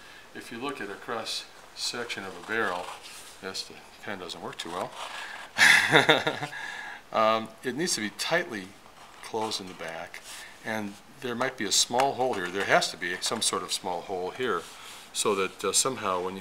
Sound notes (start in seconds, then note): 5.6 laughter